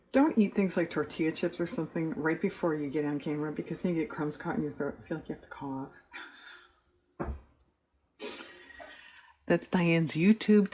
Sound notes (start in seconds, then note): 9.0 laughs